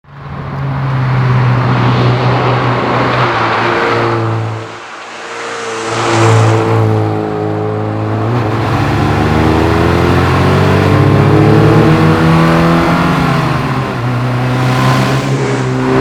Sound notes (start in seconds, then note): 7.1 engine revving